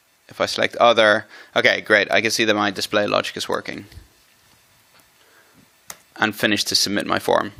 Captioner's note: click